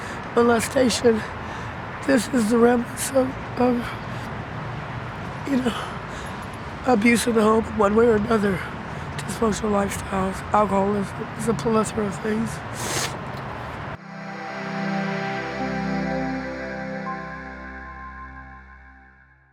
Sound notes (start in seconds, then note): 12.7 sniffles